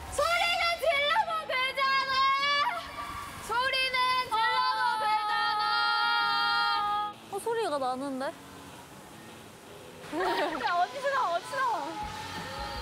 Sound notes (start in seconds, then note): 3.4 Dolphin high pitches in straight face